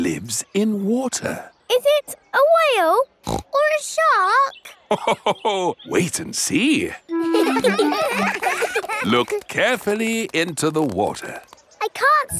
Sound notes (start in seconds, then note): 3.2 snorts; 7.1 children laughing; 7.2 laughs